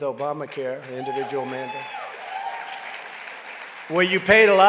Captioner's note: applause